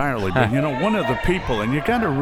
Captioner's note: laughs